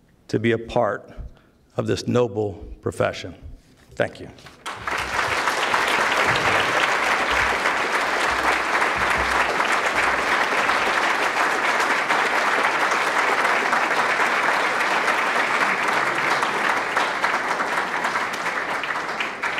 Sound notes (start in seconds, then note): 4.4 applause